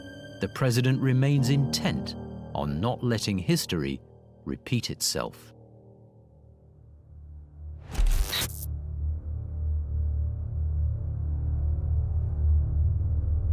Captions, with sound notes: The president remains intent on not letting history repeat itself. (dark brooding music) (static hisses)